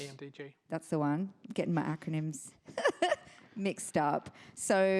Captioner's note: chuckles